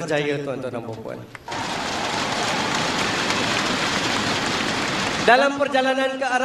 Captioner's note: crowd cheering